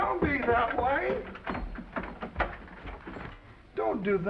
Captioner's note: door unlatching